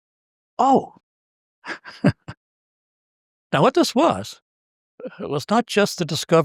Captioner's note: laugh